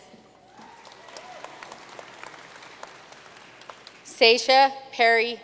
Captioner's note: audience cheering and applauding